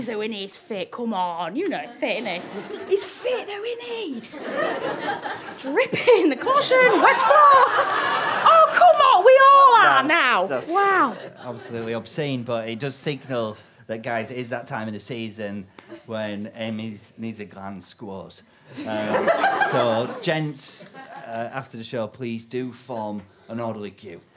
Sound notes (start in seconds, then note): 7.1 audience laughter; 18.7 audience laughter